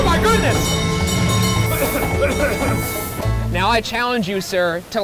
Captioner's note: bell ringing; coughing